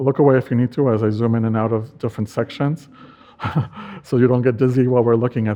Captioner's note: laughs